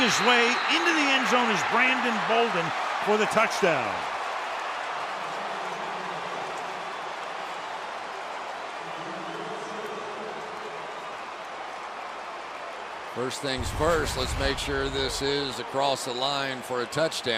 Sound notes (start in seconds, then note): 4.4 cheering; 5.7 pa announcement